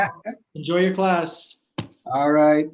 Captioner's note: laughs; laughs